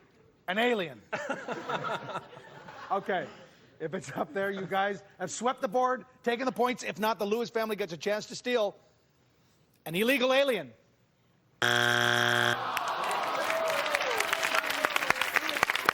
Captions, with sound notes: An alien. (laughter) Okay, if it's up there you guys have swept the board, taking the points. If not, the Lewis family gets a chance to steal. An illegal alien. (buzzer sounds) (crowd groans)